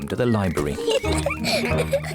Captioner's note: laughter